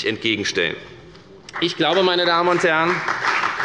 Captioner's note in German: Beifall bei der FDP